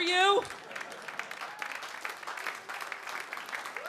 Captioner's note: audience clapping